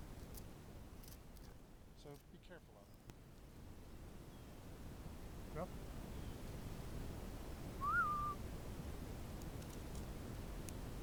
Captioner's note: whistle